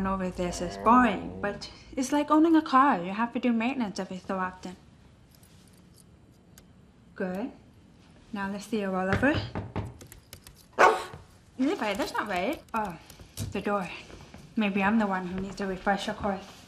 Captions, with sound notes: GOING OVER THIS IS BORING BUT... [ Soft growl ] IT’S LIKE OWNING A CAR. YOU HAVE TO DO MAINTENANCE EVERY SO OFTEN. GOOD. NOW, LET’S SEE YOU ROLL OVER. [ Knocking on door ] [ Barking ] LEVI, THAT’S NOT RIGHT. OH, THE DOOR. MAYBE I’M THE ONE WHO NEEDS THE REFRESHER COURSE.